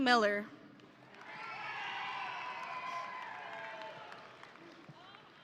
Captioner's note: audience cheering